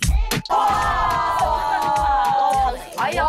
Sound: cheers again

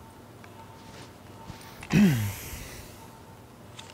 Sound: sighs

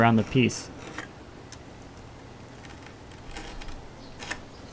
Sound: wood scraping

